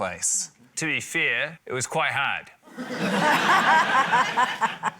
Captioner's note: laughter